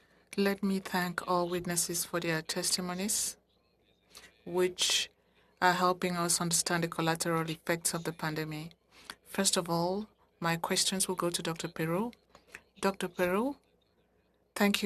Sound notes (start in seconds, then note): 7.8 speaking FRENCH